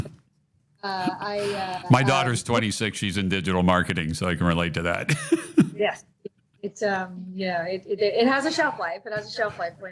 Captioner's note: laughs